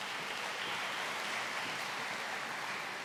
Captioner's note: applause